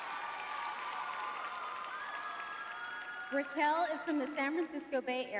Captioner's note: audience cheering